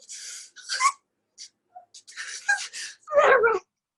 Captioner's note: gasps for air